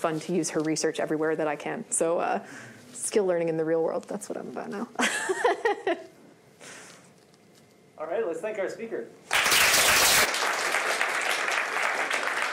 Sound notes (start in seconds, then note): 5.2 laughs; 9.2 applause